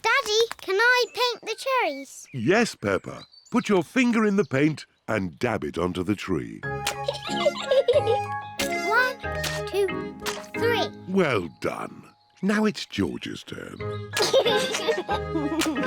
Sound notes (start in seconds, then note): 7.0 giggles; 14.1 chuckles